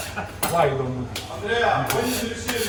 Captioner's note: laughing; kitchen tool cringing; speaking in foreign language